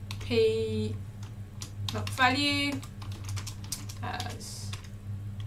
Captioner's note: keyboard clicking; keyboard clicking